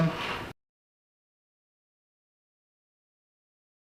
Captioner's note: gavel bangs